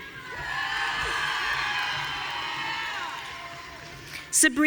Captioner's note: audience cheering